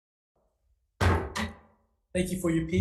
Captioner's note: gavel thuds